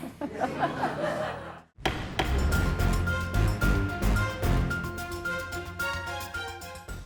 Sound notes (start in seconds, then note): 0.0 viewers laughing; 1.8 gavel banging; 1.8 tense music